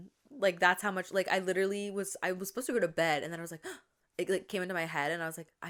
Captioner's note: gasp